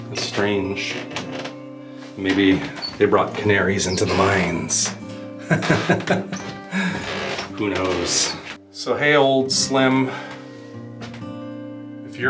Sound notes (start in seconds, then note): 5.4 laughter